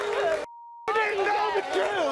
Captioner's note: beep